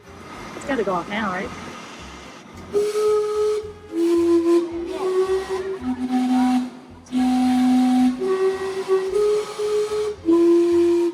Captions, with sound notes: It's gotta go off now, right? (clock whistles)